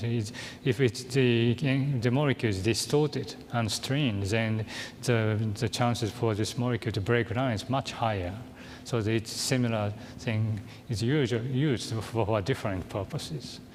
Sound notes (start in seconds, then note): none